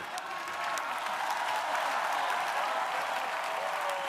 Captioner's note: crowd applauding